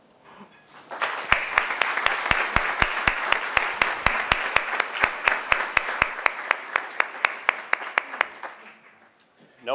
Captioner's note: applause